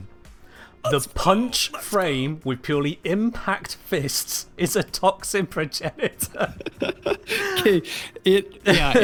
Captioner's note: both laugh